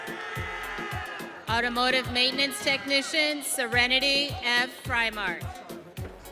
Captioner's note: audience cheering